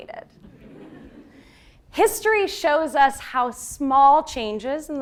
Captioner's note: laugh